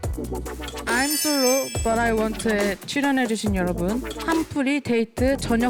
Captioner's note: sound effect revealing the program title